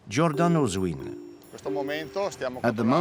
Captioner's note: Italian spoken audio